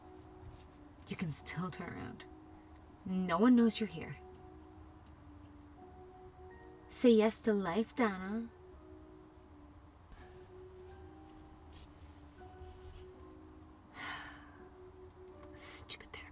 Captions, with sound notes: You can still turn around. No one knows you're here. (mocking) "Say yes to life, Donna". (sighs) Stupid therapist.